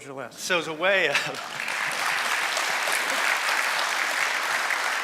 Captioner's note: applause